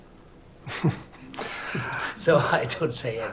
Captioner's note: laughs